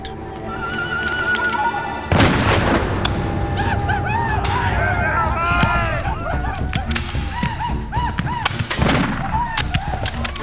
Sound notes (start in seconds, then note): 0.1 dramatic music; 2.1 gun bangs; 3.2 all shouting; 8.6 guns banging